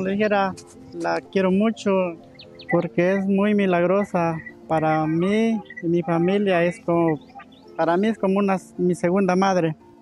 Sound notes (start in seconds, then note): 2.8 continues speaking in Spanish